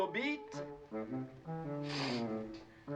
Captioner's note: sniffs